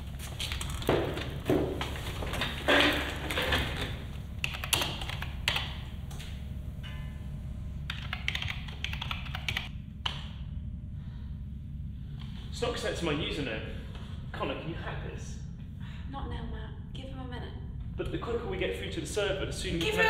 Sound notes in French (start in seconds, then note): 4.4 Bruit de clavier